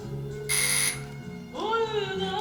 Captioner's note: doorbell rings